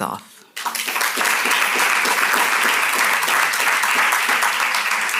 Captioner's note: audience clapping